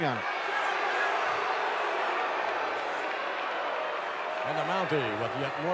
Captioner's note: audience booing